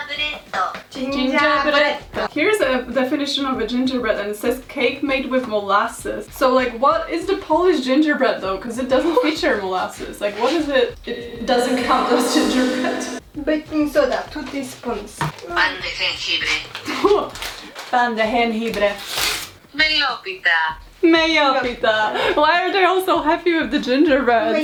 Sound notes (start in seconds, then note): 14.9 Google translate voice speaks; 17.6 Google translate voice speaks